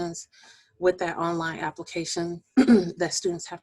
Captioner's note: clearing voice